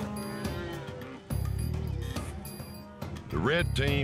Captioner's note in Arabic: موو الماشية